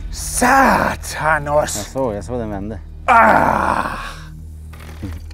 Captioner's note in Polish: Przekleństwa po duńsku